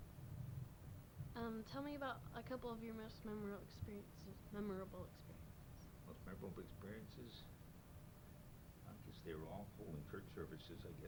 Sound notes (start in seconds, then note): none